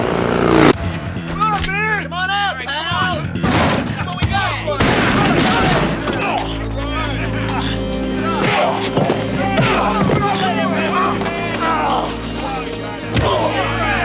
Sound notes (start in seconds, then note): 3.2 shotgun blast; 3.4 door crashes open; 3.4 gunshot; 11.0 painful groans